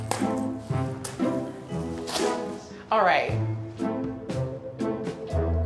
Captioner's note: tearing